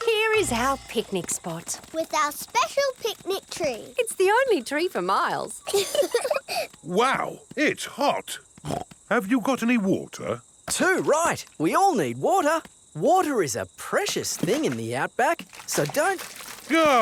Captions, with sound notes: Here is our picnic spot! With our special picnic tree. It's the only tree for miles. (LAUGHING) Wow! It's hot! (SNORTS) Have you got any water? Too right! We all need water. Water is a precious thing in the outback. So don't...